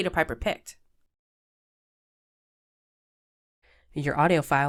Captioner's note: silence